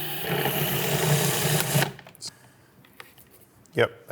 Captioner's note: mixer whirring